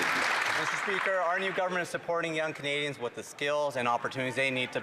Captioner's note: some Applause